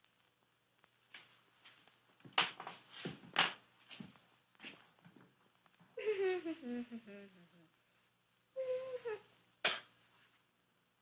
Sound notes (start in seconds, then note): 6.0 humming tune